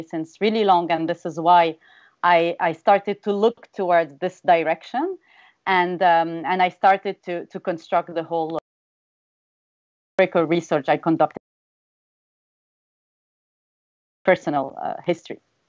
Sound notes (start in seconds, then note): 8.9 audio cuts out